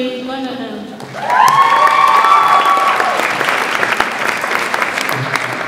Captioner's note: audience applauds and cheers